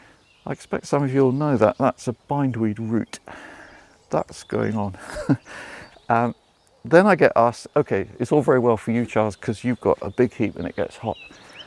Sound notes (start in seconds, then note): 4.9 laughs